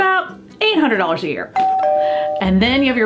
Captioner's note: door bell rings